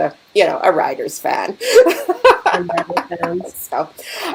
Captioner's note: laughing